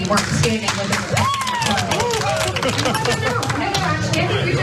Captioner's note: applause